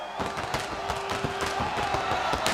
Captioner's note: crowd chatter; crowd cheering